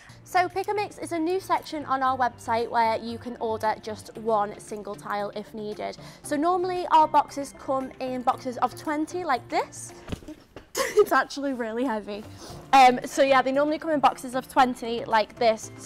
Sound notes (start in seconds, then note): 10.0 box clunking; 10.9 laughs